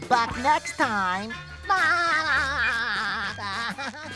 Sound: laughing

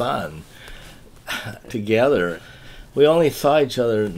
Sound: laughs

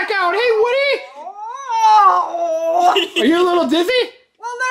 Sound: laughs

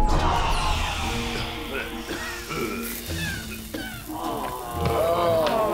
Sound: coughing

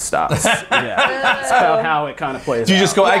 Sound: laughter

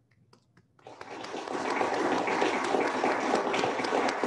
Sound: applauding

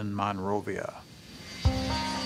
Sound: jet taking off

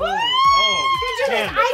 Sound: squealing

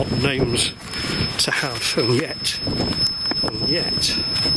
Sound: sensor beeps

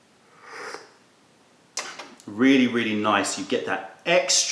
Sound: sips tea

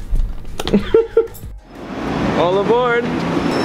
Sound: laughs

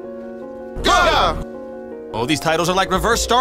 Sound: shouting

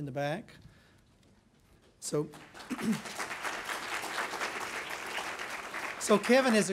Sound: clapping

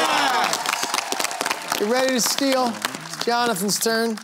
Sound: cheering

